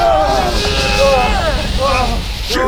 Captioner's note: urrrrrghghh!